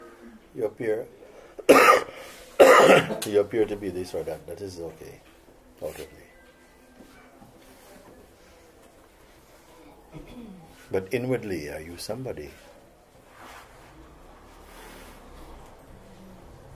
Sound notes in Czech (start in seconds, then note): 13.4 Ticho